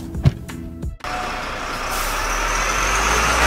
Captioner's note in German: Bus Geräusche